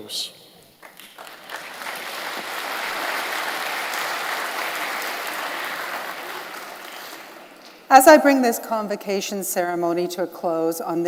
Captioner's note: applause